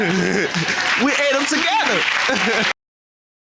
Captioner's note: laughs